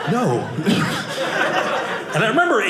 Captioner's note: audience laughing